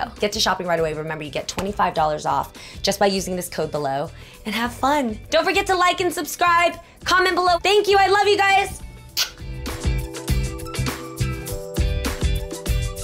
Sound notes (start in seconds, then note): 9.0 kissing; 9.3 upbeat electronica music